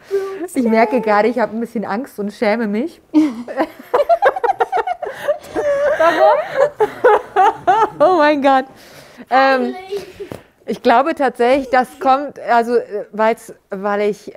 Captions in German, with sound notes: Ich merke grade, ich hab ein bisschen Angst und schäme mich. (Gelächter) Warum? (lachend:) Oh mein Gott. Ich glaube tatsächlich, das kommt, weil ich ...